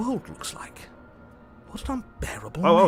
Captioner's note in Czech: žádný zvuk